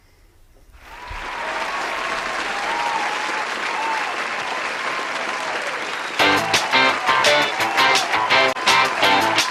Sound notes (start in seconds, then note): 0.8 audience applauding; 6.1 upbeat rock music